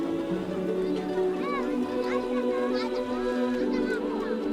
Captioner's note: quiet chatter